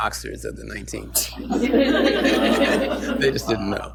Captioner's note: laughter